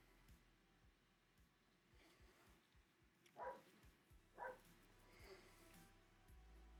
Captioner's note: dog barking